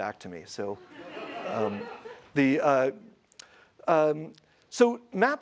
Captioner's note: audience laughs